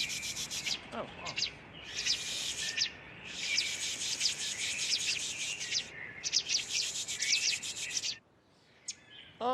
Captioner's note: imitating birds